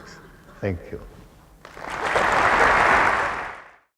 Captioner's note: applause